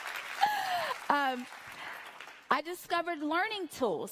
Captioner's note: applause